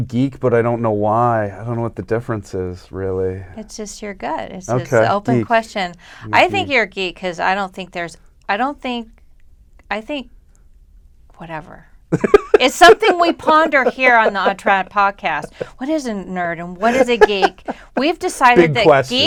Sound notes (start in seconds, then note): 12.1 laughter; 16.8 laughter